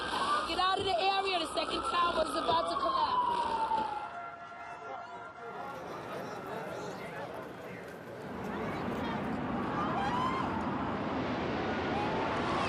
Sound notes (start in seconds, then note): 4.4 sirens blaring; 4.4 crowd chattering; 9.6 people shouting